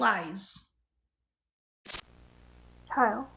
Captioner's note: glitch